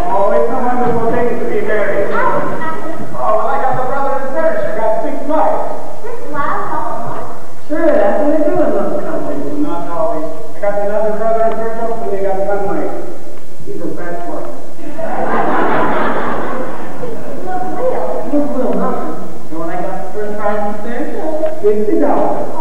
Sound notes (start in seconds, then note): 14.8 laughter